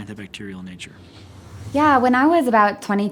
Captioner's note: whooshing